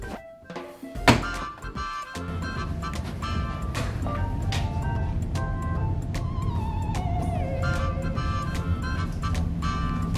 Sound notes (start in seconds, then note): 4.0 footsteps approaching